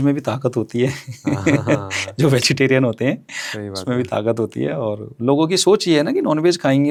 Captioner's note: laughter